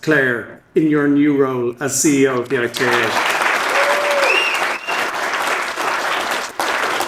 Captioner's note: audience applauding